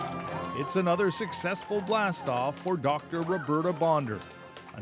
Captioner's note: cheers and Applause